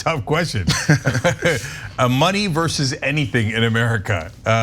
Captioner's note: laugh